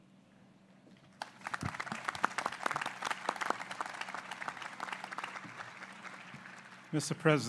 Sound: applause

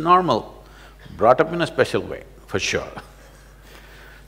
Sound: laughs

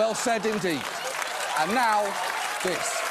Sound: applauding and cheering

